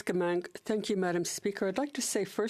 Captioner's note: speaking French